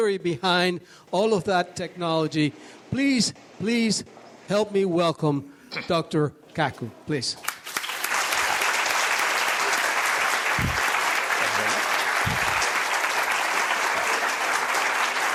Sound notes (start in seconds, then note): 7.4 audience applauds